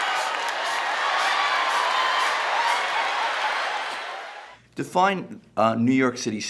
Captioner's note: audience Laughing and Cheering